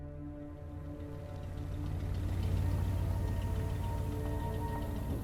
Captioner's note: truck engine rumbling